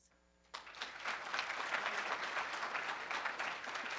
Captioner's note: room applauds